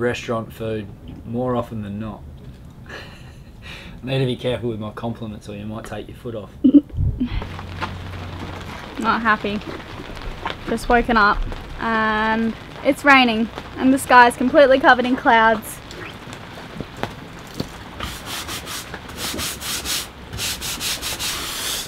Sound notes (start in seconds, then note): 2.9 laughs; 6.6 giggles; 7.5 raining